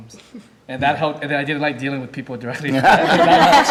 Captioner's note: laughing